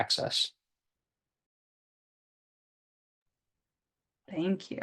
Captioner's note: silence